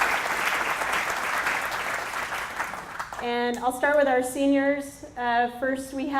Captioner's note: applause